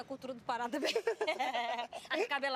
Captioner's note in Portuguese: ambos rindo